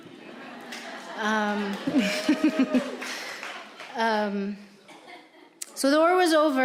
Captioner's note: audience laughing; audience cheering; audience applauding